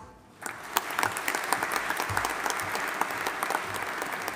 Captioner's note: audience applauding